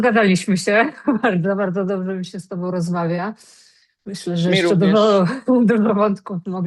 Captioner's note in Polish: śmiech